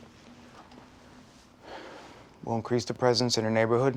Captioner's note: sighing